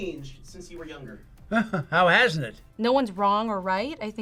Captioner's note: chuckles